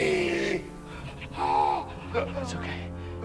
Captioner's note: screaming